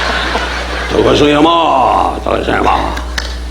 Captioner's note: audience laughing; Don imitating Japanese language; all clapping